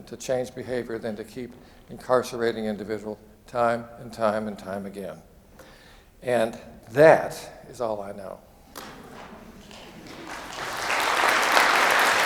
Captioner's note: applause